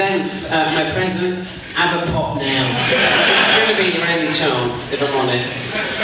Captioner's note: audience laughs